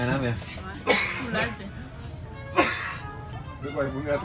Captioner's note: he keeps coughing x2